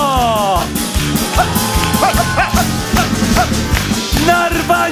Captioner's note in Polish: oklaski publiczności